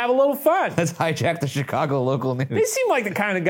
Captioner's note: laughs